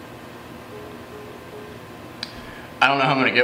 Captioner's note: hang-up tone